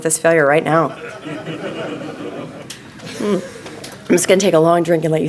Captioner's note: crowd laughing